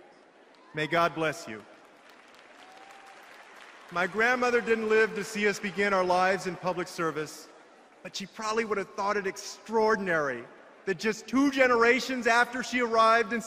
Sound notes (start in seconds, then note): 0.2 appause